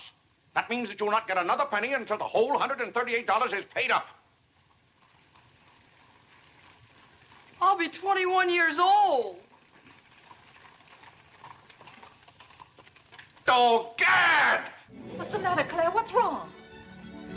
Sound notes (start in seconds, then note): 9.7 carriage rattling